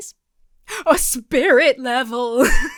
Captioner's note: gasps; laughs